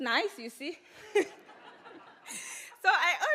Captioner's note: audience laughs